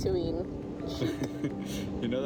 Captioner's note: laughter